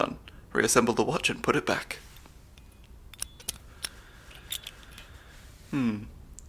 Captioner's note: metallic assembly sounds